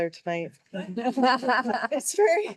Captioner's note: board members laughing